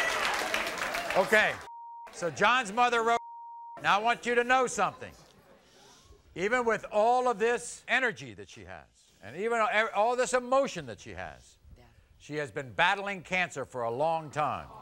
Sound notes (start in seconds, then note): 3.1 beep